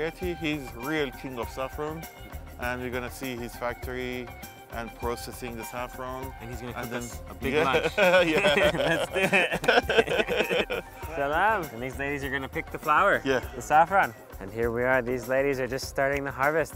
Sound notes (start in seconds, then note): 9.1 laughing